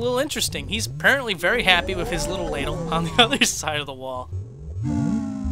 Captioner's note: laughs